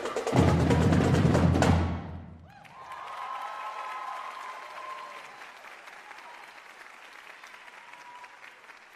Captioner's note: cheers and applause